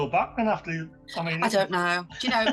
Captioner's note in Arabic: يضحك